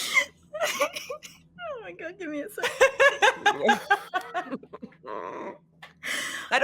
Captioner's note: laughing